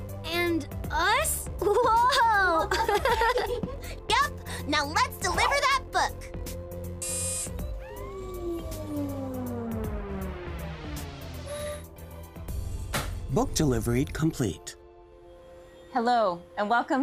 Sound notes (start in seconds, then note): 1.6 both laughing; 7.0 mechanical buzzing; 9.1 machine humming; 16.0 calm music